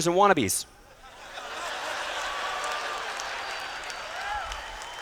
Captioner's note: laughter